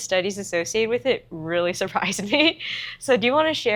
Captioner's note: laughs